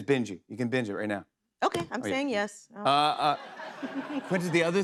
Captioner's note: laughter